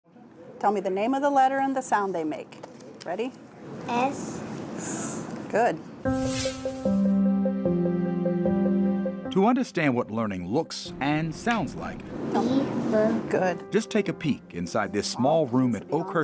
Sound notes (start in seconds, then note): 6.0 whooshing; 7.9 light upbeat music